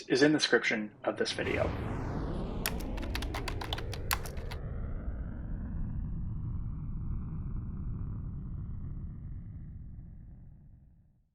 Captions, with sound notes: is in the description of this video. (screen blasting) (keyboard clicking) (screen blasting continues)